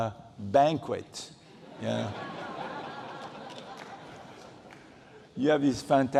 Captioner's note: laughter